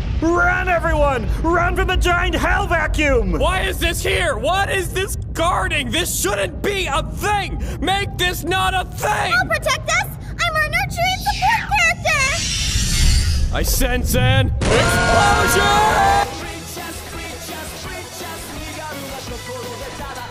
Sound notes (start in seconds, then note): 14.6 everyone else screams